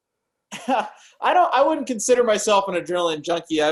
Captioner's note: laughs